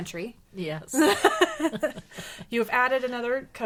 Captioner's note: laughing